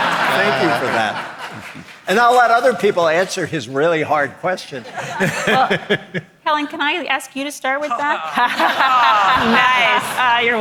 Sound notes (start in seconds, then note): 4.8 audience laughing; 7.9 laughs